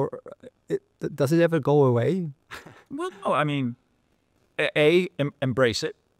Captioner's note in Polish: śmiech